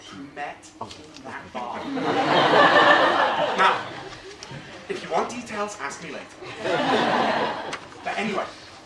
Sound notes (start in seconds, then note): 1.8 laugh; 6.4 audience laughs